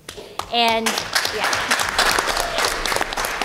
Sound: applause

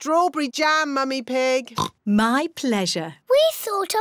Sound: oinks

